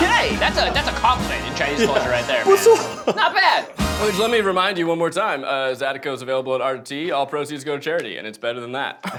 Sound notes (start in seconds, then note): 2.9 foreign language